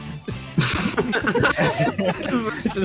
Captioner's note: laughter